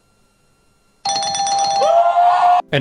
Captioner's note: ding, ding